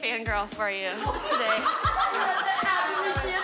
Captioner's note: all laughing